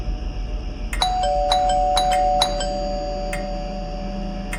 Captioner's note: scary music, crickets; doorbell repeats, scary music, crickets; scary music, crickets